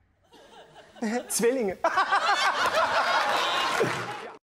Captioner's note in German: Gelächter